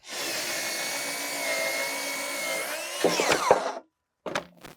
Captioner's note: power tool whizzing